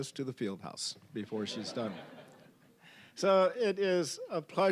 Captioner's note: audience laughing